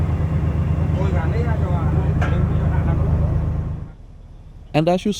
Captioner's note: train engine sounds